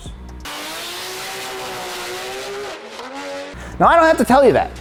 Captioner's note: engine roaring